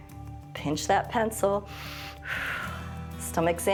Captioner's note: inhales and exhales